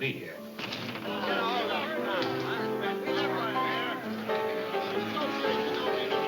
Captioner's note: lively piano music; patrons chattering